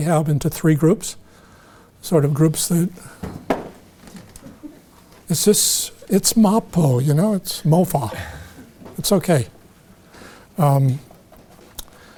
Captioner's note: audience member chuckling